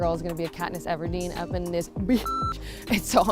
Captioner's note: beep